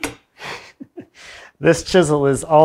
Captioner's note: laughs